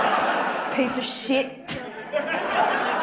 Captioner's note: spits